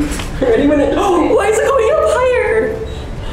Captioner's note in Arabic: تلهث